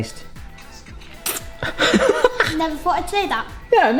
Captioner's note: air kisses